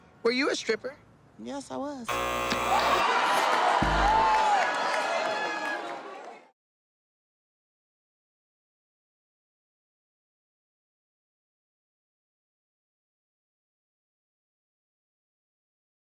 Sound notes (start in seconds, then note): 2.1 buzzer rings; 3.2 gasping, laughing